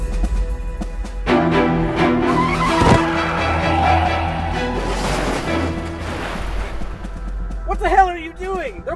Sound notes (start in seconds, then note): 2.2 tires screech